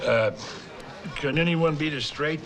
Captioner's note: none